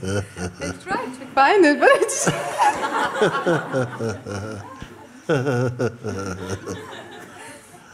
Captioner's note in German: Lachen